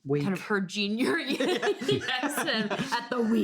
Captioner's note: both laughing